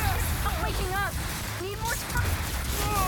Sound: static

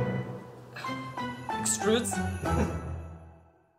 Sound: background music; laugh in background

